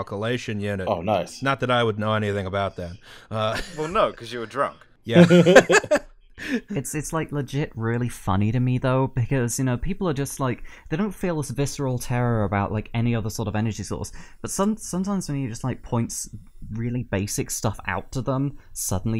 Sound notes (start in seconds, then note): 3.4 laughter